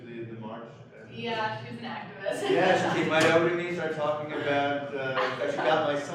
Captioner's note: chuckles